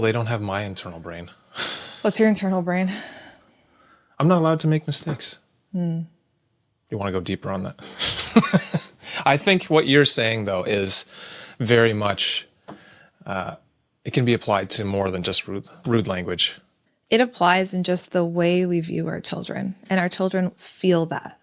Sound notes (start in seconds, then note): 7.9 laughs